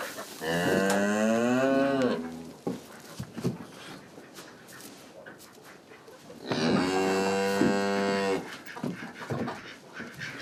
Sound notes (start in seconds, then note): 0.4 mooing continues